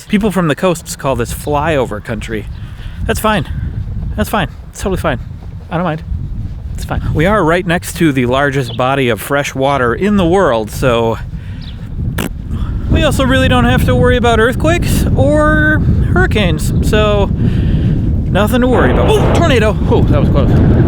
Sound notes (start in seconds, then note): 11.4 fart noise; 16.6 tornado blows